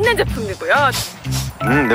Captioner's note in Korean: 킁킁